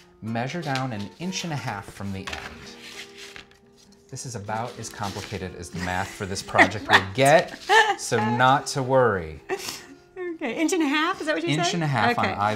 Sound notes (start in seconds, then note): 7.5 laughs